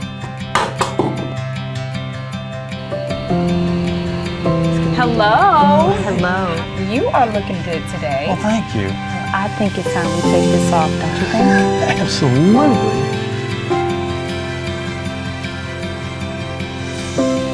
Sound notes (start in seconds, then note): 0.0 warm music plays; 0.6 tool falls; 13.6 warm music plays